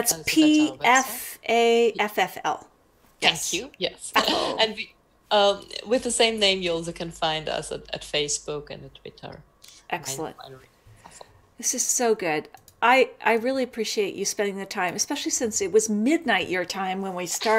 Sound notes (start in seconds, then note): 4.2 laughs; 10.1 mic cuts out